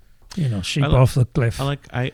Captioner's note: uh